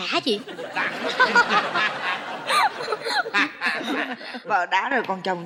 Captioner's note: laughing